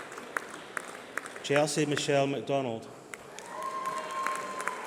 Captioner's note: applause